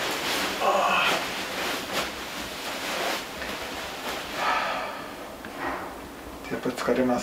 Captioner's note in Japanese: ため息